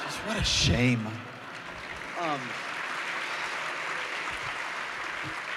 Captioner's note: applause